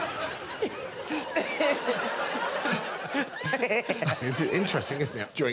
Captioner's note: audience laughing